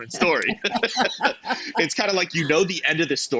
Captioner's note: both laughing